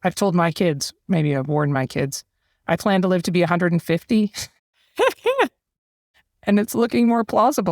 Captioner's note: laugh